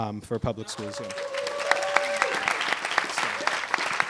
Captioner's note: applause